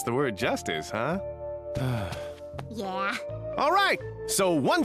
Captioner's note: narrator sighs